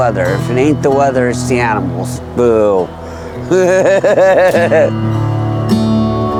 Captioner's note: laughs